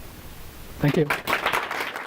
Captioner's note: applause from audience